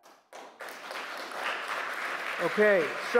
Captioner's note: applause